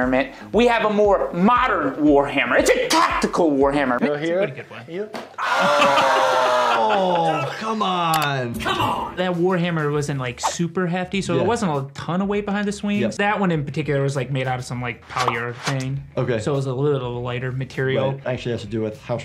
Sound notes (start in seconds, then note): 5.4 person screams